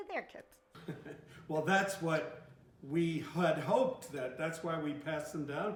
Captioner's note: laughs